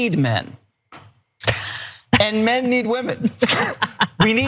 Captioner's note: laugh